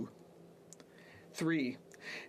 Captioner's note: speaking French